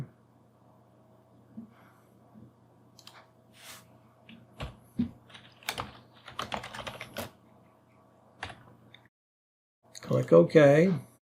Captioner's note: keyboard clicking